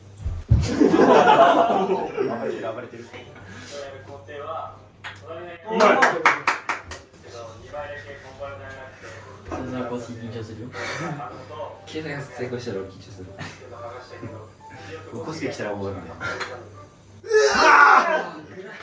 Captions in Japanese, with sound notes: [笑い] 暴れてる。暴れてるやる工程は隣 [拍手] 2倍だけなくて緊張するよ。 と 成功したら俺緊張する。剥がしたけど 起こしてきたらう